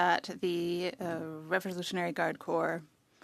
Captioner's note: speaking French